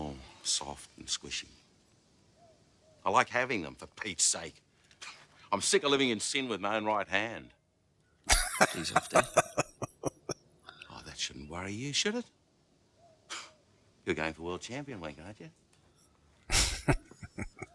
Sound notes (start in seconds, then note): 8.2 laughing; 16.5 chuckling